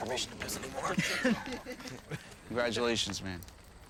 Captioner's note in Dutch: lacht